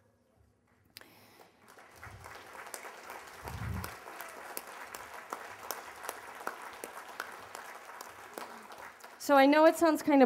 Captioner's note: applause